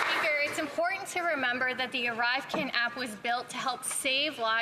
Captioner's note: some Applause